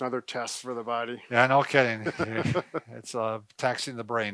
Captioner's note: laughing